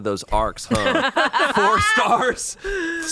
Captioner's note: group laughs